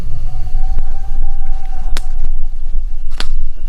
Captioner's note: animals howling; fire crackling